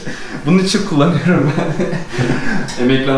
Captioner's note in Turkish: Gülüşmeler